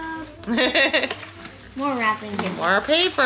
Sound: laughing

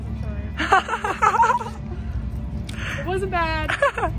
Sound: laughing

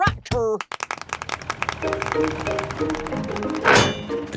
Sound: clapping

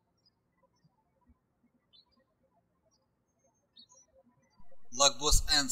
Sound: birds chirping

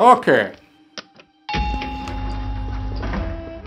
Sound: elevator bell ding

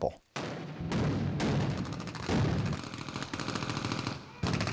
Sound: explosions and gunfire; rapid, continuous gunfire

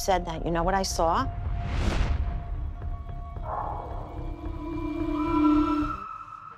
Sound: mysterious music playing; scream

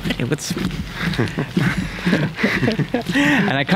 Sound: laughs

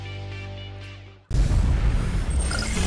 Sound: explosion; electronic noises

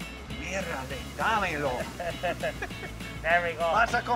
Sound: speaking Spanish

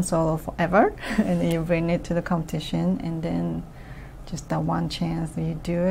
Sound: laughs

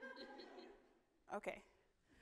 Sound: audience laughing

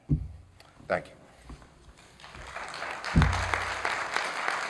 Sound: applause

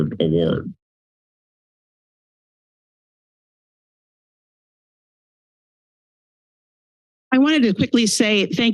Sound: silence

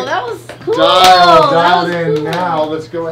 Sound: clapping

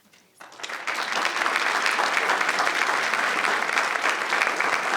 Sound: audience applauding

